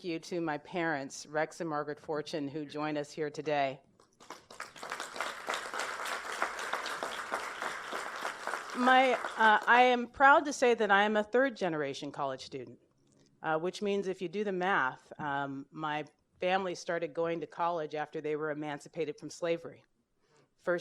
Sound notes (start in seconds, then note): 4.2 applause